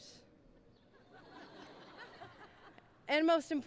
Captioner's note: laughing